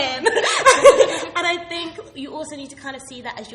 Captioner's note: laughing